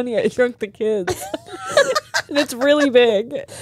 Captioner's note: all laughing